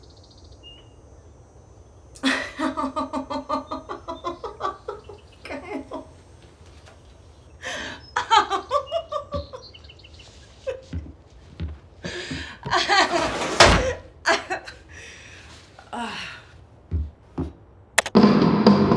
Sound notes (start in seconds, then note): 2.1 laughing; 12.8 door slams; 16.5 sighs